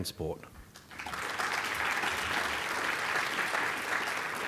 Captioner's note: audience applauding